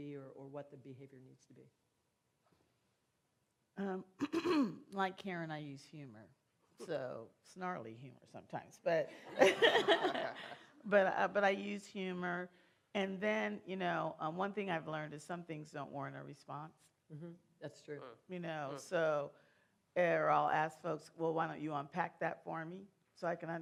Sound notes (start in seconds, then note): 9.2 laughter